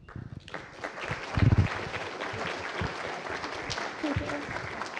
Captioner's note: applause